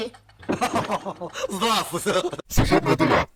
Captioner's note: laughs